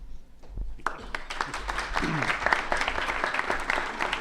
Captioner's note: applause